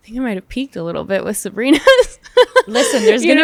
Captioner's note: laughs